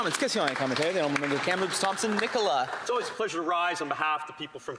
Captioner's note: some applause